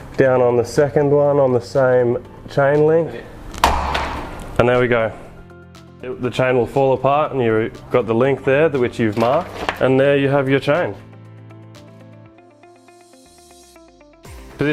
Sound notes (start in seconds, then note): 3.6 cutter slamming; 11.8 bright music